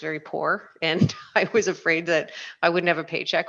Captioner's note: laughs